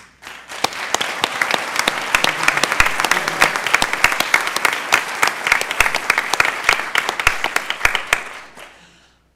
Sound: applause

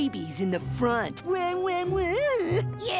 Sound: imitates crying

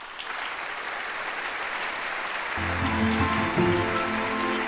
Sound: applause

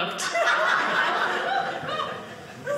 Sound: audience laughing

